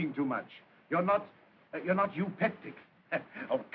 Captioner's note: chuckles